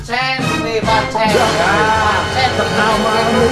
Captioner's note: surprised